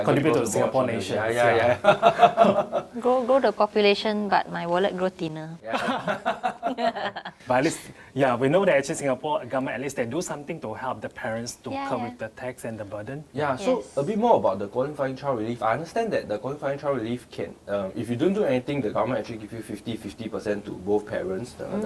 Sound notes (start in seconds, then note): 5.7 laughs